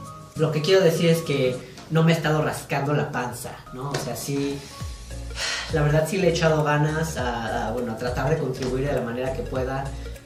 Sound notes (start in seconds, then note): 5.3 sigh